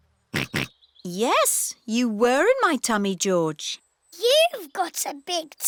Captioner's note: snorts